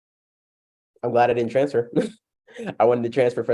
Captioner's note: laughs